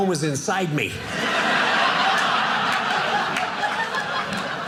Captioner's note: audience laughing